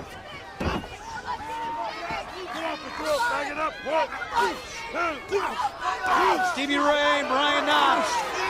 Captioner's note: crowd chatter